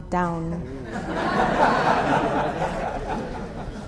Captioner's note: audience laughter